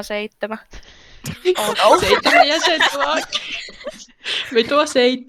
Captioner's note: everyone laughing